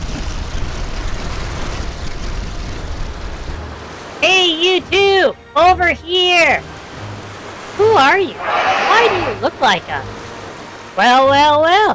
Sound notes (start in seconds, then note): 5.0 shouting; 8.4 confused; 11.2 sarcastically